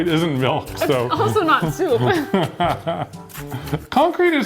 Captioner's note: laughing